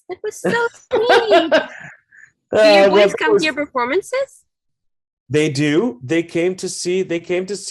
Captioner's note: laughs